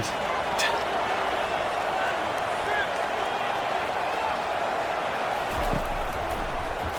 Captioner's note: crowd cheering